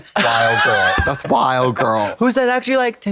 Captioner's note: Katya wheezes